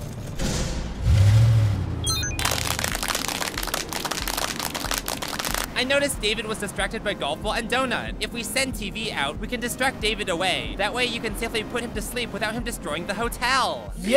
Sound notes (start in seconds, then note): 2.4 clapping